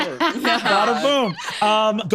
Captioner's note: laughs